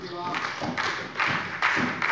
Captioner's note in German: Beifall bei der SPD